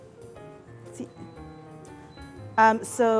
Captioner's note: beeping